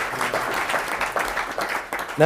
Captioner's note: applause